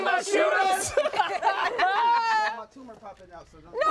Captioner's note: everyone laughs